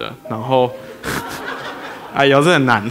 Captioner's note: laughter